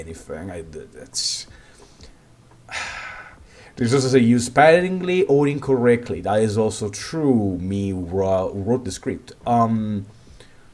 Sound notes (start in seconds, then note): 2.7 10 years of frustration in a single sigh